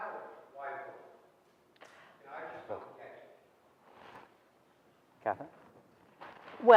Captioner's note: audience member speaking softly off microphone